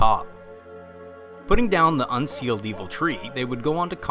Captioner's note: santa clause noises